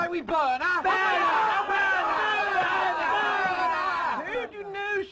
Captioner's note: cheering